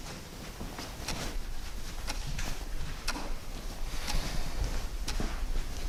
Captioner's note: clock ticking